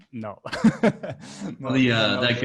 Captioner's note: laughing